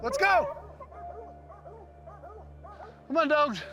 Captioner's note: dogs barking